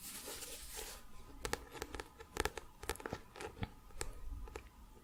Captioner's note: tapping on book